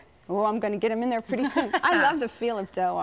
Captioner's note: laughs